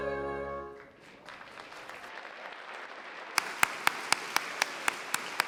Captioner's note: applause